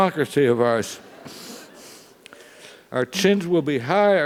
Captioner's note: laugh